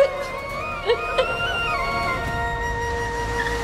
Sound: sobbing

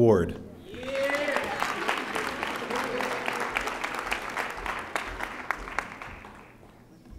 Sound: audience applauding

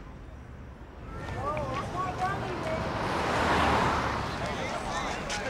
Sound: many conversations, laughter

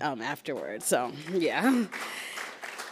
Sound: applauds

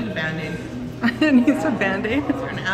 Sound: laughing

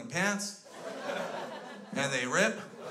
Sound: crowd laughs

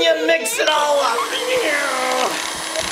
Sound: children laughing; machine whirring

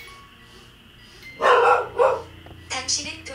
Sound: barking

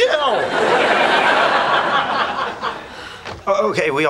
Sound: audience laughing

